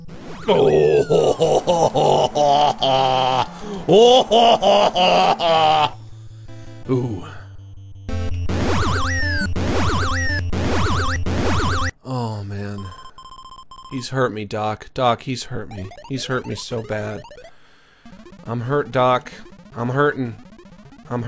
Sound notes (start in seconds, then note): 0.5 laughing evilly; 7.4 game warbling